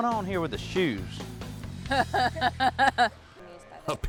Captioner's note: laughs